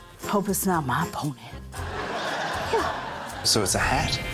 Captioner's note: laughter